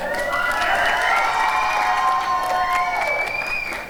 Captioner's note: applause and cheering